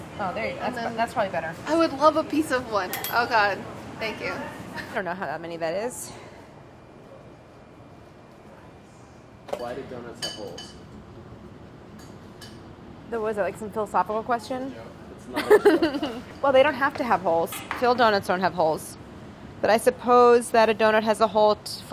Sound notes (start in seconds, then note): 15.4 laughs